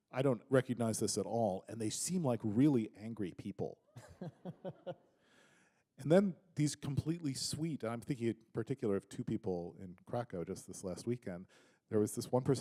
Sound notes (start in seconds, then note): 3.9 chuckle